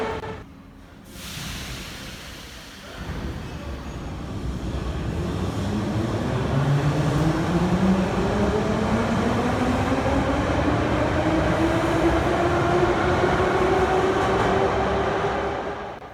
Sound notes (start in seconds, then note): 0.0 train leaves to the next station